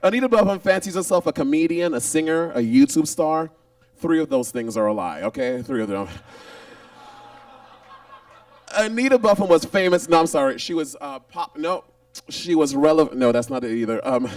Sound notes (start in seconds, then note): 6.5 audience laughs